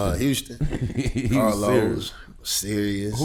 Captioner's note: laughs